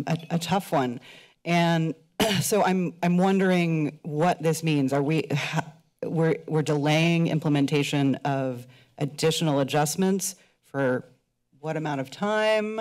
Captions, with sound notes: a-, a tough one. - And [clears throat] so I'm-, I'm wondering what this means Are we-, we're-, we're delaying implementation of additional adjustments for what amount of time?